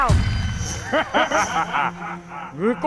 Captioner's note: laughing